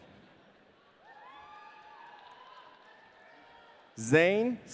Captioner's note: audience cheering